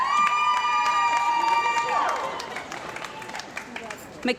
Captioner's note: cheering & Applause